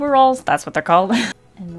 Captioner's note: laughs